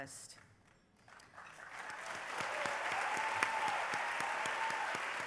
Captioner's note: applause